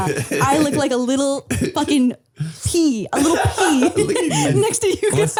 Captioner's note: laughing